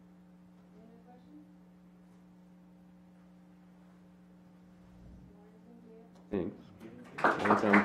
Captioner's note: clapping